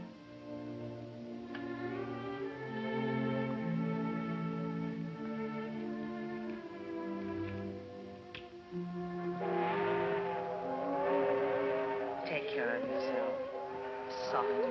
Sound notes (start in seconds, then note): 8.7 train whistling